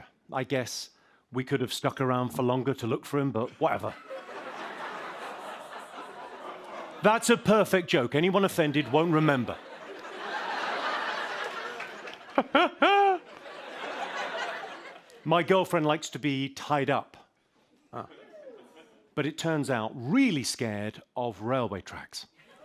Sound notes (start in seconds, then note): 4.0 light laughter, groaning; 8.6 laughter